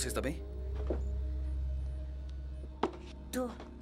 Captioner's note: distorted voice